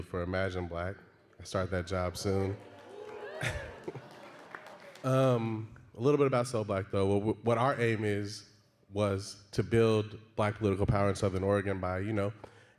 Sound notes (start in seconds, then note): 2.3 audience murmuring and cheering